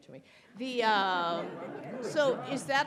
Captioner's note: attendees laughing